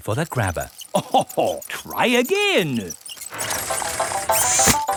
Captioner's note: chuckles